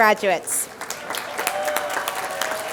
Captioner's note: applause